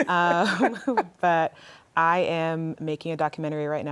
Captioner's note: laughter